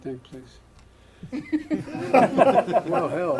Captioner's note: laughter